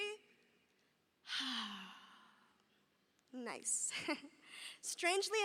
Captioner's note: chuckles